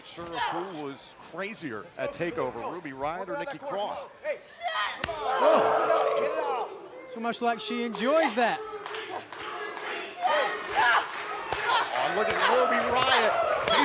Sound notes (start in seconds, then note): 9.5 crowd cheering